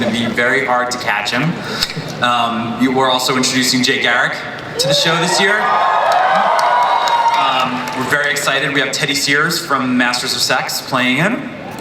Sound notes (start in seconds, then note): 4.7 audience cheers